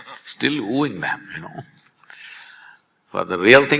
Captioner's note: both laugh; laughs